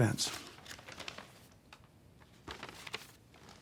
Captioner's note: papers shuffling